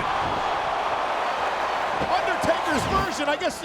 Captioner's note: audience cheers